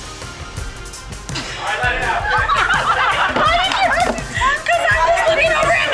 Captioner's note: players laughing